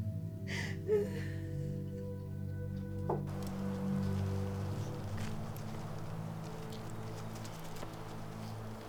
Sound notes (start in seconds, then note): 3.0 thump from the cat; 6.7 eerie ambient music; 6.7 footsteps from the dogs